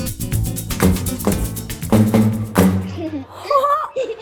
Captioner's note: banging